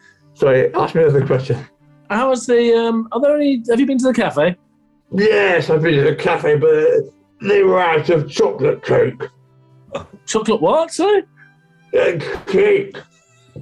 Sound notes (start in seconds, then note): 5.3 gruffly; 11.6 gruffly